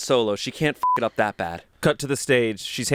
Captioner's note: beep